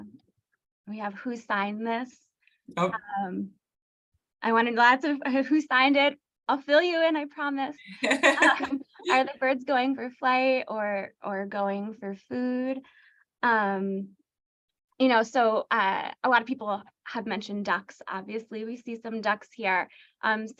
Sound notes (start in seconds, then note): 7.9 laughter